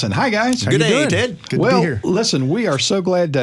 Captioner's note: overlapping greetings